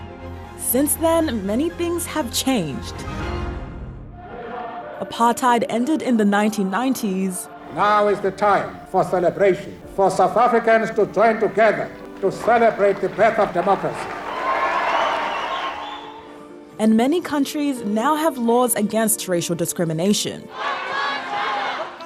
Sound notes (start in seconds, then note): 14.5 whooping and cheering; 20.5 all chant